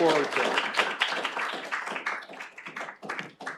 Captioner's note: applause